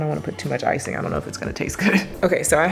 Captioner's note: chuckles